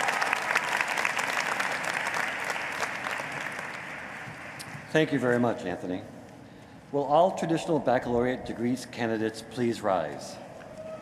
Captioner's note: applause